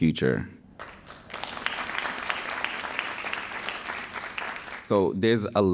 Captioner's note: audience applauding